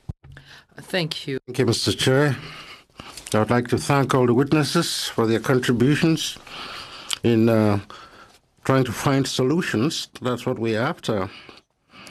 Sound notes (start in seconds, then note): 5.4 speaking French